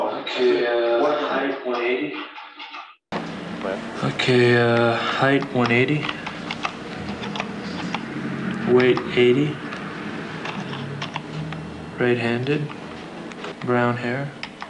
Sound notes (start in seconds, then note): 3.2 static plays; 7.1 fingers typing